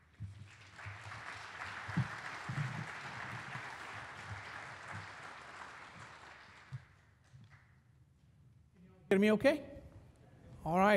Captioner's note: applause